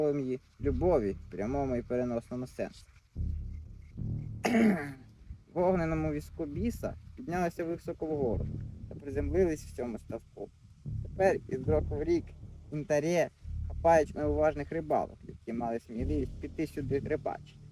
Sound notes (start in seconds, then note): 4.4 coughs